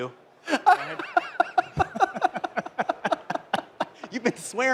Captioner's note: laughter